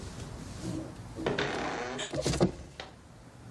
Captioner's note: door creak and stumble